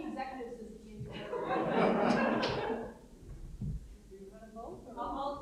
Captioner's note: audience chattering